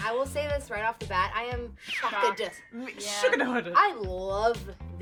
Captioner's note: stutters